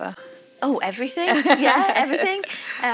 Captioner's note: laughing